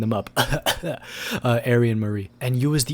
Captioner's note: cough